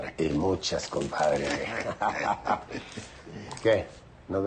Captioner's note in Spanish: Risas